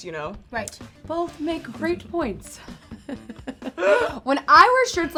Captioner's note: laughs